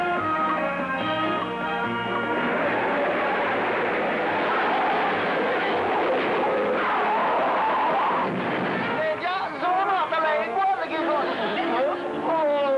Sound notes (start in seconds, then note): 2.0 loud tyre screeching; 8.5 Angrily yelling in Italian